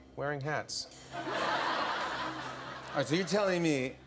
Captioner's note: laughter